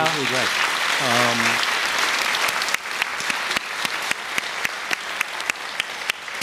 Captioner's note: audience Applause